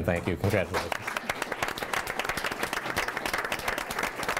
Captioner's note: clapping